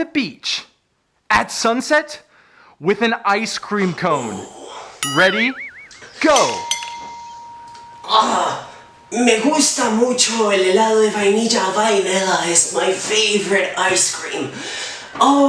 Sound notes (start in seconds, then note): 5.0 bell rings